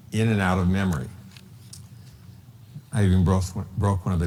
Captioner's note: none